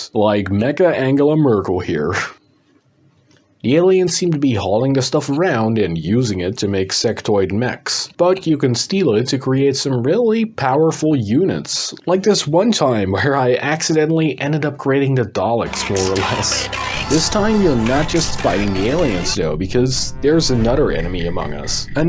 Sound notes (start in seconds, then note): 16.5 Dalek Noises Intensify